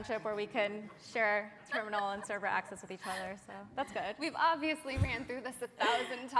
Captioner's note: laughter